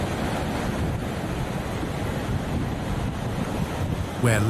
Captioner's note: wind blowing